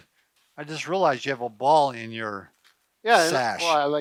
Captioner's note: chuckles